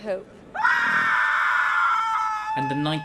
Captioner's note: screams